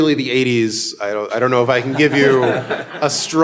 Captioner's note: audience laughing